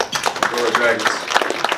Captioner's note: applause